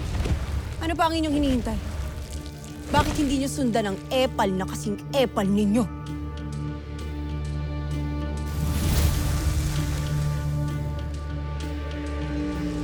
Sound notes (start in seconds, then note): 7.4 tense music playing; 8.4 infernal whoosh-crackle